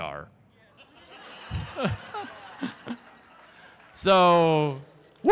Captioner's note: crowd Laughter